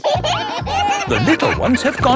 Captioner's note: kids giggling